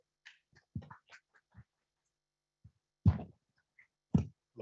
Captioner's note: audience applauding